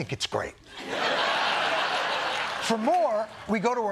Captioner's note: laughter